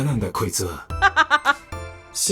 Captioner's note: chuckles